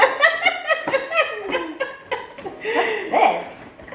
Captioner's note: mom laughs loudly